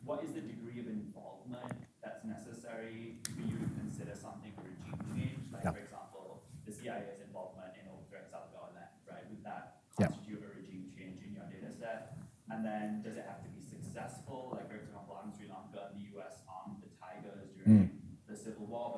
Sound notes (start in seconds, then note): 7.5 faintly speaking